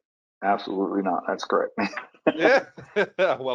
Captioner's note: chuckles